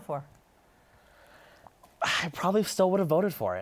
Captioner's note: sighs